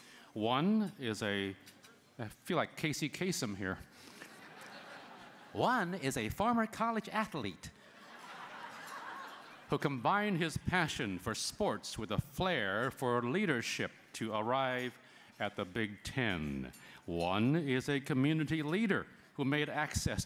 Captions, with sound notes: One is a -- I feel like Casey Kasem here. One is a former college athlete [laughter] who combined his passion for sports with a flare for leadership to arrive at the big 10. One is a community leader who made access